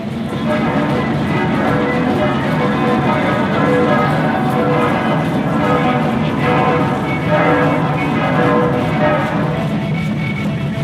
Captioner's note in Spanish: campanas